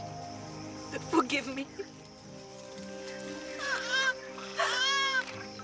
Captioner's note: crying